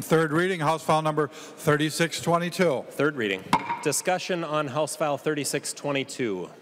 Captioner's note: gavel